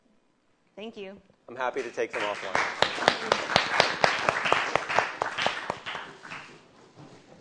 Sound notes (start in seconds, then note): 3.3 applause